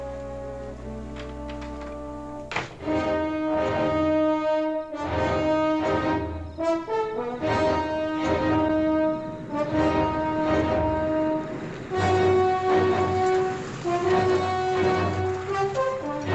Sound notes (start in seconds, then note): 3.0 intense music; 11.2 engine revs